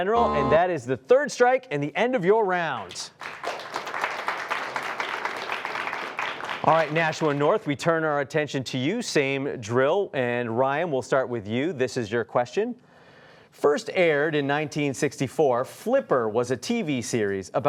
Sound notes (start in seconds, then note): 2.8 applause